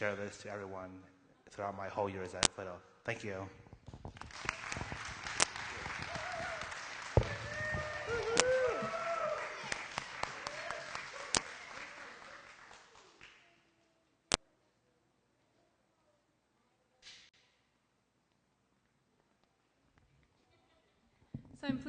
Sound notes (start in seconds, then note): 4.1 applause; 13.7 silence